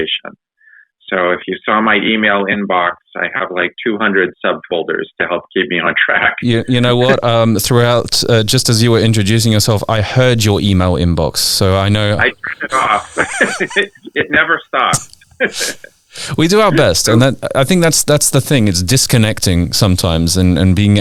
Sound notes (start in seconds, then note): 12.0 laughs